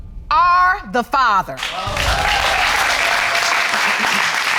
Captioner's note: audience applauding